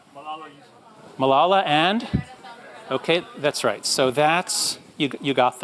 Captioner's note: crowd murmurs